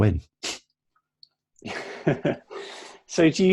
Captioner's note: laughing